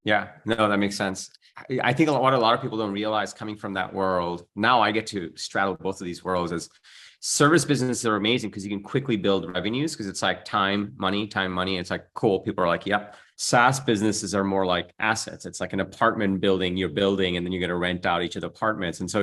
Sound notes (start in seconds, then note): none